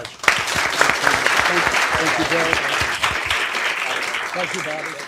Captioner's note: applause